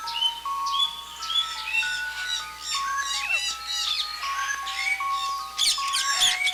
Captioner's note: birds chittering; gentle music